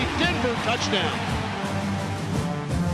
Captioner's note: crowd cheering